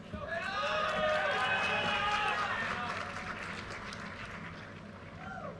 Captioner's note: audience cheers and applause